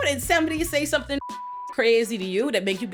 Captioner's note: beep